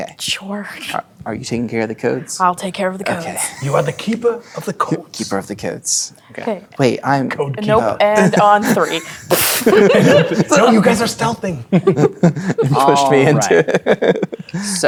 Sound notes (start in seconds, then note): 9.6 players laughing; 11.7 laughing